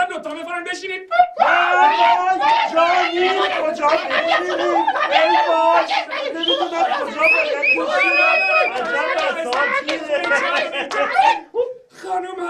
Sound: fake celebrating sound

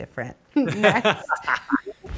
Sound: Ashton laughing

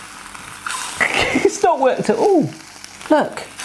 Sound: laughing

